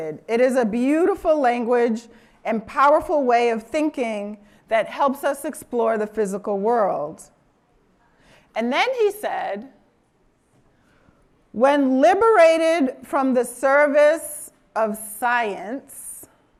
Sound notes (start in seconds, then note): none